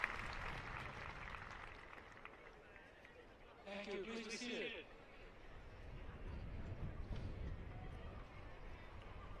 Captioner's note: applause